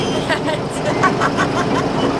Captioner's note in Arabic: ضحك